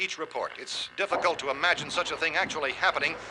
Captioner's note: thumping